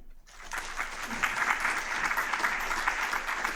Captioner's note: applause